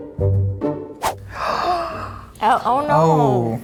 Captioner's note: mellow classical music; gasps